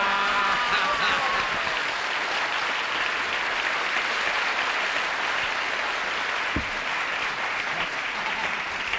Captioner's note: applause